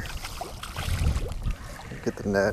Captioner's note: water splash